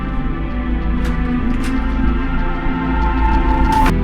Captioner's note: door opens